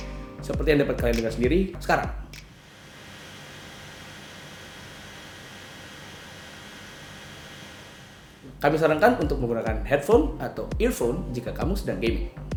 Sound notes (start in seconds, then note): 2.3 fan whining